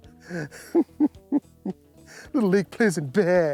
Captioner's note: laughs